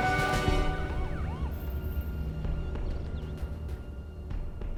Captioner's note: siren blaring